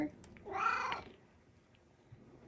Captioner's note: meows